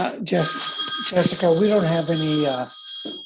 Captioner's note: phone ringing